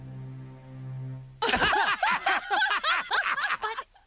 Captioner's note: laughter